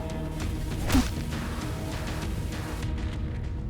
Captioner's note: gun thudding; mellow upbeat music